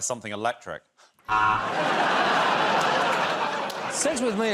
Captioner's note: laughter